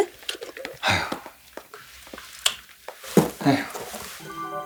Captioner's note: sigh